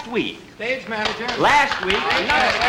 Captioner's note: clapping and Commotion